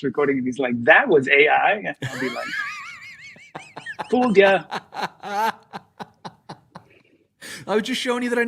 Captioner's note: laughter